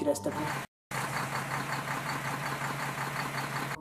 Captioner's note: brum brum